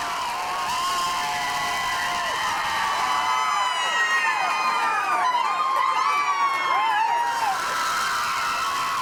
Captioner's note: crowd cheering